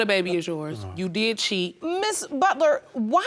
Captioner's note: sighs